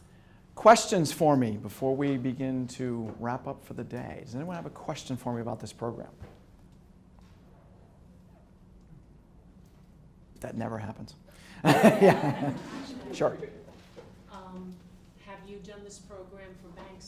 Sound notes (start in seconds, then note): 6.6 silence; 11.6 students laugh